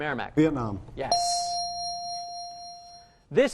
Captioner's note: ding